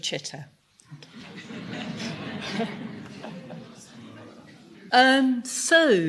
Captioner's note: laughter